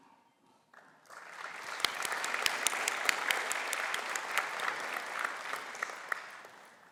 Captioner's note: applause